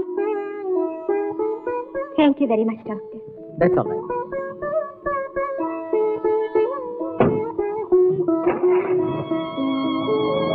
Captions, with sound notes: Thank you very much, doctor. - That's alright. (Car engine starts)